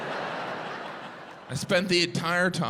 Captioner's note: audience laughing